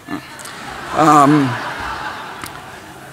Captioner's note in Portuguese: Risos